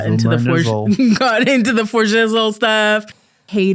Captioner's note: laughing